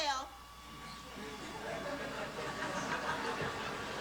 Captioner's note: light laughter